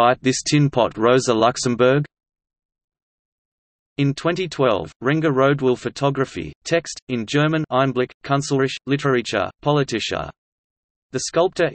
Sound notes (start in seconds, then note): 6.3 in German